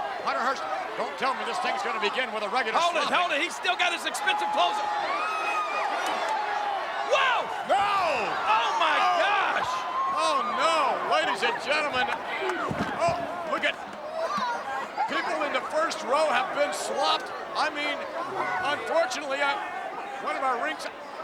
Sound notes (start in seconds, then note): 4.9 crowd yelling